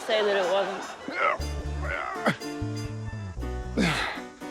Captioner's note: grunts